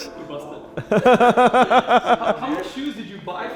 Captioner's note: laughs